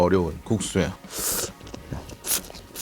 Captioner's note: slurp